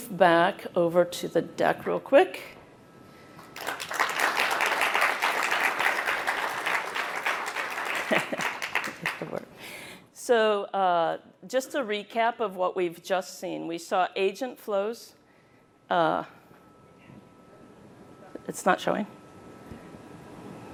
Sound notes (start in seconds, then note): 10.0 applause